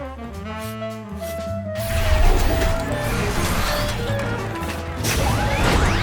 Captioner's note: robots whir